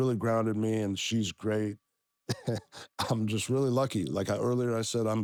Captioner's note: laugh